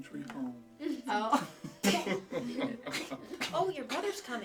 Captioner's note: laughing